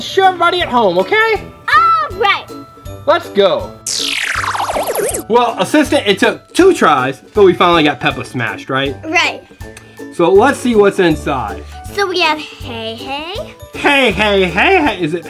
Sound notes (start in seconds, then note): 3.8 lasers whooshing